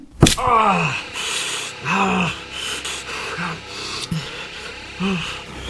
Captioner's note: Larry groaning; dramatic music